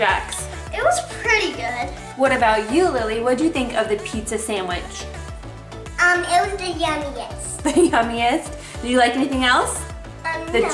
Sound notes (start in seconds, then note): 7.7 laughing